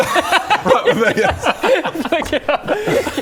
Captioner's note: cheeky laughs